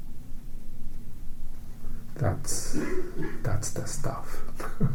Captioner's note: laughs